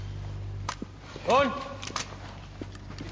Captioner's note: rustling and gun cocks; calls out; guns cocking